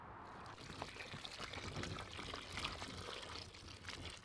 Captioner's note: water splashing